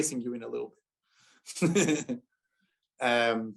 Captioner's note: laughter